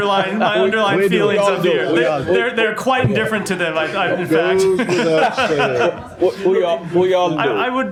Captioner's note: laughter